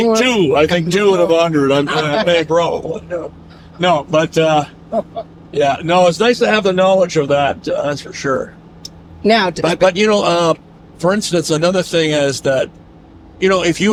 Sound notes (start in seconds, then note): 4.1 all laugh